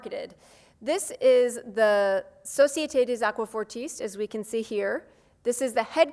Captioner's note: speaks foreign language